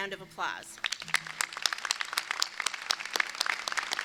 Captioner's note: crowd applauds